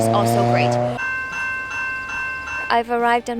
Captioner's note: passing train signal